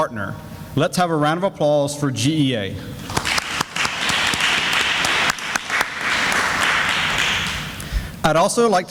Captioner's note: sounds of clapping